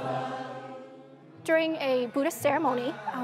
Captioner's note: praying and chanting